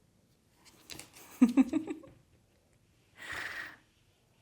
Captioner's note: laughter